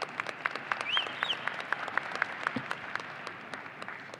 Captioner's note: audience applauding